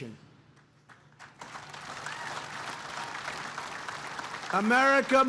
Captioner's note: applause